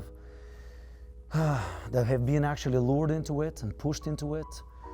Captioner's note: sighs